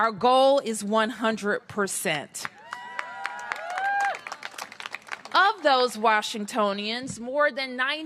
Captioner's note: cheers and applause